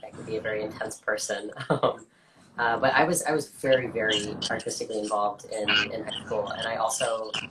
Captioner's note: laughs